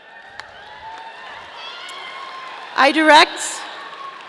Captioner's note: audience cheering